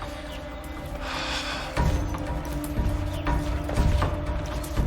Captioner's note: Cody sighs; suspenseful music